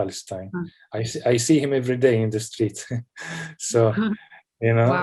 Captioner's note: laughs